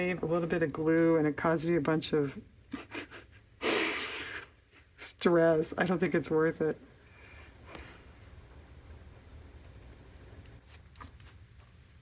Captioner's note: laughs